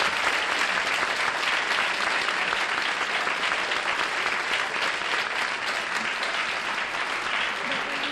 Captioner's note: applause